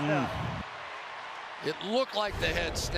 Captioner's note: cheering